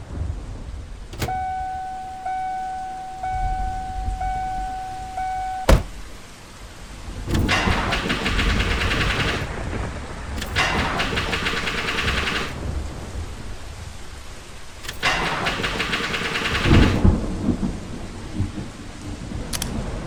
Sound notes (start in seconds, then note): 1.3 car door; 7.1 car engine